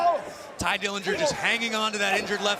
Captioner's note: crowd cheering